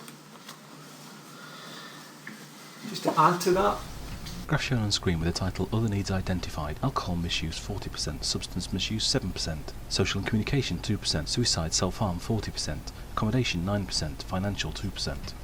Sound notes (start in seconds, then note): 2.2 voiceover; 8.3 voiceover